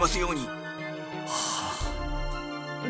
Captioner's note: sigh